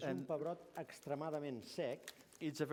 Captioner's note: non-english speech